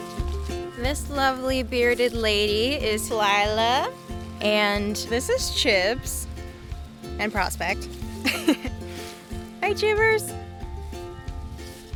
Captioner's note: laughing